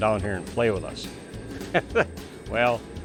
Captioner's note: laughs